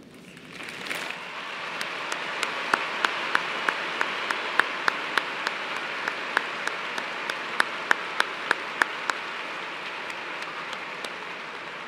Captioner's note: applause